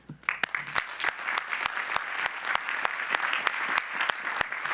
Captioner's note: audience applauds